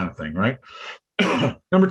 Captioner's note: coughs